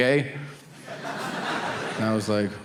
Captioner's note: audience laughing